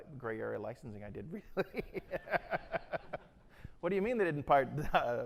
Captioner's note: laughing